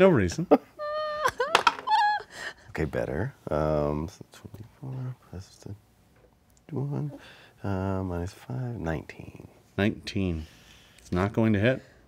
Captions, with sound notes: - No reason. (dice clatter) - Okay, better. 24 plus (murmurs) 19. - 19, it's not going to hit.